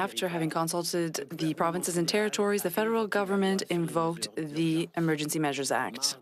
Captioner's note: speaking French